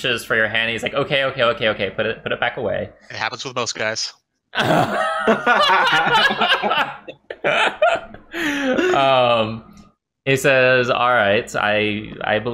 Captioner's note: laughter